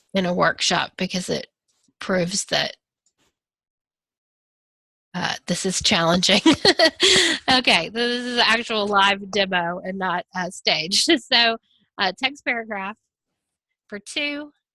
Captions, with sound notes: in a workshop because it proves that this is challenging. (laughs) Okay. This is an actual live demo and not staged. (laughs) So, text/paragraph for two